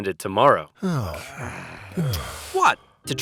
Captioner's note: men groaning